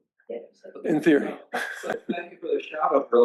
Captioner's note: laughter